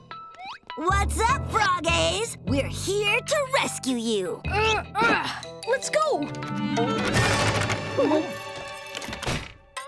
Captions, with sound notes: What's up, frog-ays? We're here to rescue you! [grunting] Let's go!